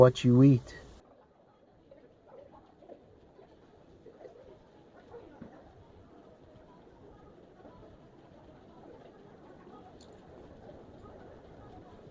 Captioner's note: distant sounds of people and walking